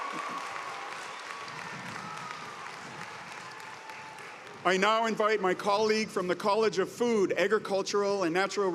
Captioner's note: cheers and applause